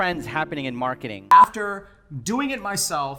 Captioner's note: beeping